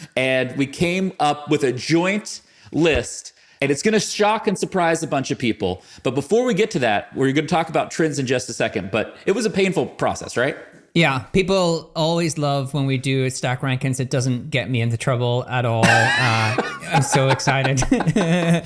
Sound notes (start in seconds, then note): 15.8 laughs